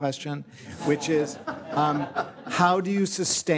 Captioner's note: audience laughs